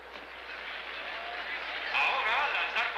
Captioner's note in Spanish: aplausos